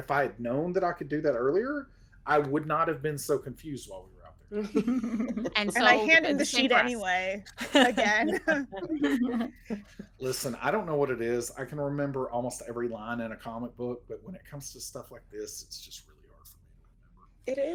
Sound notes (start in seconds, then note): 4.6 everyone laughs; 7.6 everyone laughs